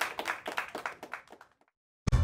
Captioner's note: applause